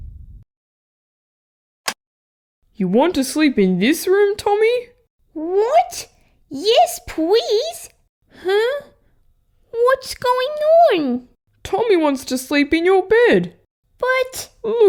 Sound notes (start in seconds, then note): 1.9 click!